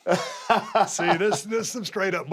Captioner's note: laugh